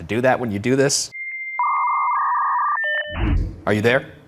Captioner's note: electrical buzzing and beeping